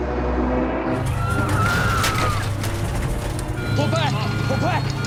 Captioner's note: airplane engine roaring; passengers screaming; alarm beeping